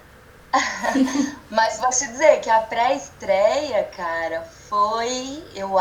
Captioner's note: laughs